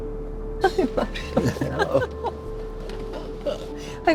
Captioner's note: laughing